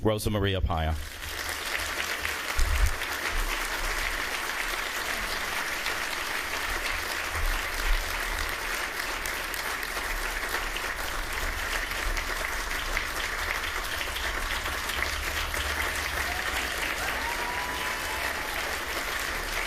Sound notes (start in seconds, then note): 6.8 applause